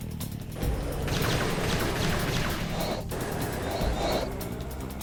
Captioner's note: lasers blasting